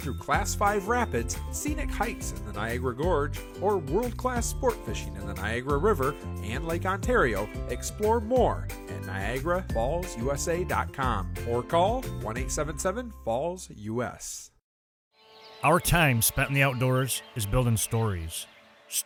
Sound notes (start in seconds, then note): 15.2 instrumental string music; 15.2 birds chirping